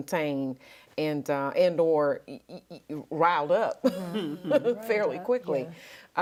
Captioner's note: laughs